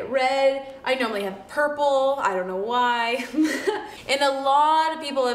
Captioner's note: laughs